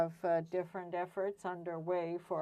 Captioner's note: speaking French